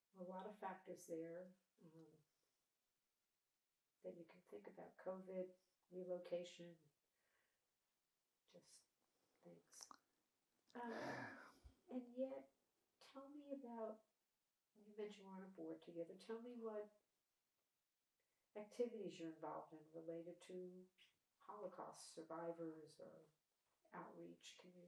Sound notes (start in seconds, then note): 10.8 sighing